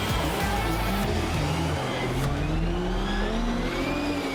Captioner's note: engines revving